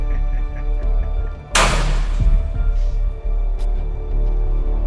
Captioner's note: metal clanging